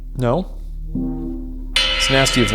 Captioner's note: clanging